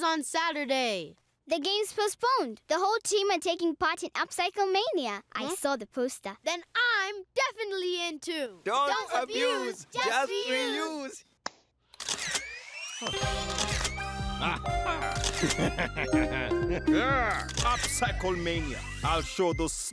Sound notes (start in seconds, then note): 11.9 camera flash whirring; 13.3 shutter clicking; 14.4 evil chuckle